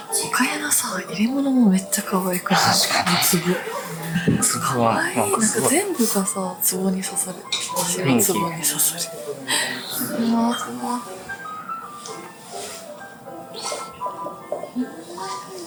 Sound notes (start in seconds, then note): 10.3 laughs